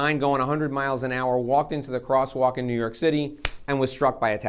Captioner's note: claps